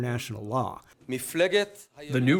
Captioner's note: through translator